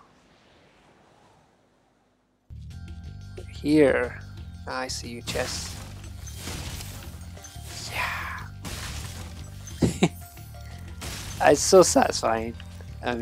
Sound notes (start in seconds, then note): 6.4 chest cracks